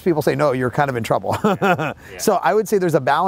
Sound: laughs

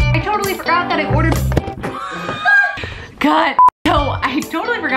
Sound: laughs

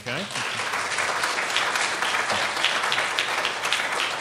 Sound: applauding

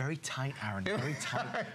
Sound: laughter

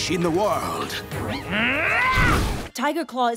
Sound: grunting

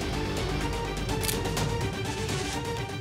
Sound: camera shutter clicks

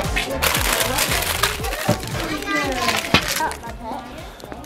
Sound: paper crinkling

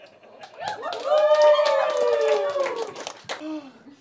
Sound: cheers, Applause

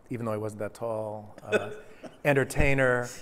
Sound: laughter

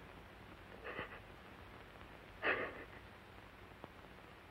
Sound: sobs softly

